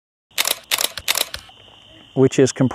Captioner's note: camera clicking